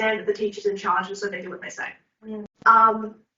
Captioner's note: none